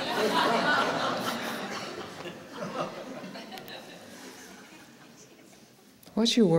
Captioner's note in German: Lachen